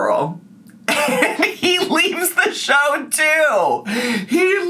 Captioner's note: laughs